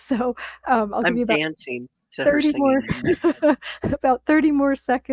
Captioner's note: laughs